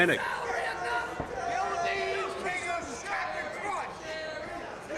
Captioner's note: crowd yells